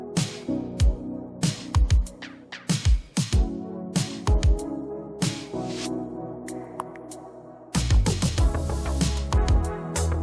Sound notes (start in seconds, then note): none